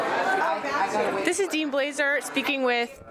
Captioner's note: chatters